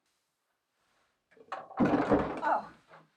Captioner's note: hard rolls clattering